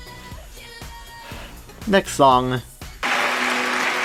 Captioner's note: sigh